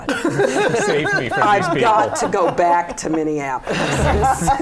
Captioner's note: laughter